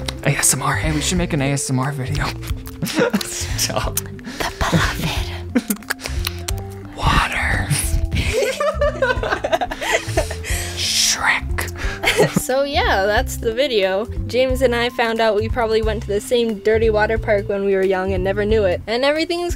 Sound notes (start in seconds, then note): 2.2 lip smacking; 2.3 lols, and more lip smacking; 4.7 whisper; 5.5 lip smacking; 6.8 whisper; 8.1 lols